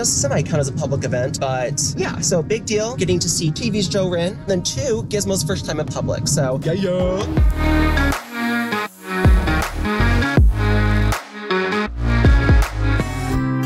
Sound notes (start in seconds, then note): 6.8 silly sound; 7.7 music with strong beat; 13.4 cheerful guitar music